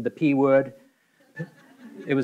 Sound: audience laughing

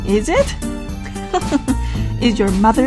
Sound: laugh

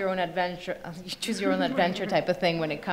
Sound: panelists laugh

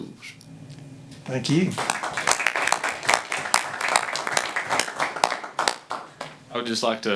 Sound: clapping

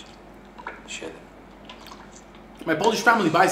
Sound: foreign language

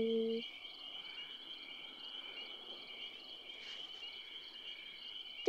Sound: crickets chirping

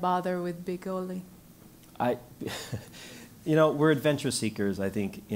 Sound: laugh

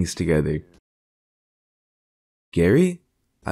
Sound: silence

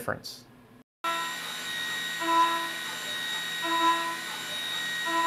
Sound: machine whirring

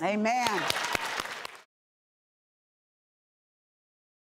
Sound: applause

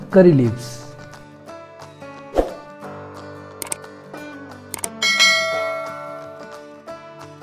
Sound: bell Sound for Subscribing

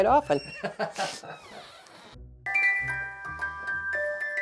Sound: laughing

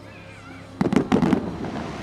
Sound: fireworks popping

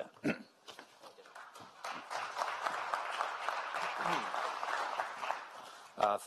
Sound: applause

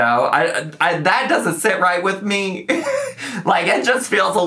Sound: laughs

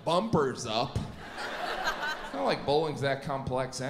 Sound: audience laughs

